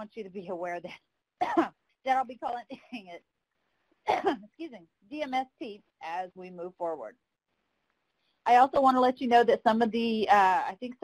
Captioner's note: coughs